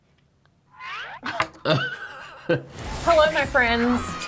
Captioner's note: laughing